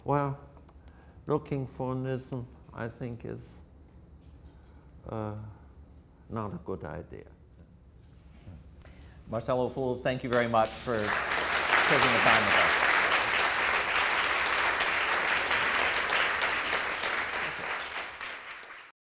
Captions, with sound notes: Well, looking for an ism, I think, is not a good idea. - Marcel Ophuls, thank you very much for taking the time with us. (audience applause)